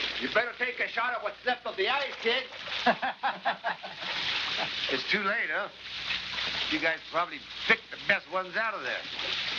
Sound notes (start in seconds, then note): 2.7 laughing